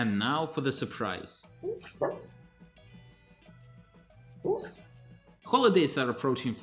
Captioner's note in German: Hundegeräusche